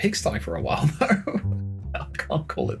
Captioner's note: starts laughing